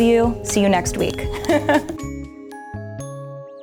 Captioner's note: laughs; gentle playful music